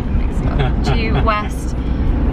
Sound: laughs

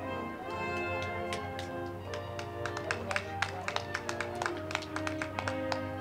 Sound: band music; crowd clapping

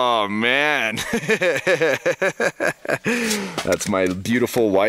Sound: laughing

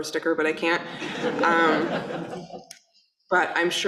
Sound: audience laughing

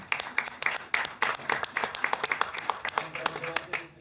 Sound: applause

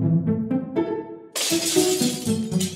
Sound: glass breaks

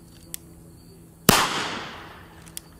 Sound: gun fires

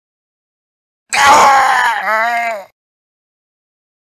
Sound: sound of male death

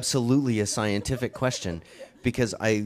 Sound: chuckles

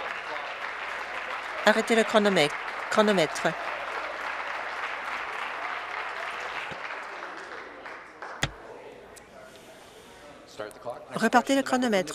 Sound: applause

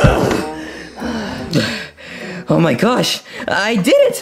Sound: both breathing intensely

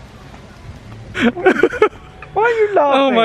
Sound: laughing

